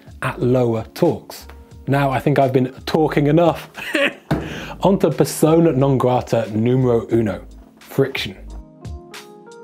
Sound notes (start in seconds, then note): 3.8 laughs; 4.2 banging table; 6.5 foreign language